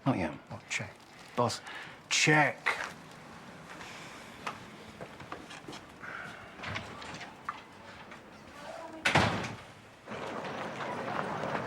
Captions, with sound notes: - Not yet. - Well, check. - Boss. - Check! (door opens) (door slams)